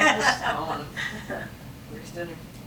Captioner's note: laughing